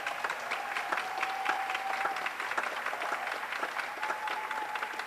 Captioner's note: audience applauds